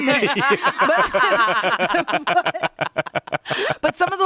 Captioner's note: all laugh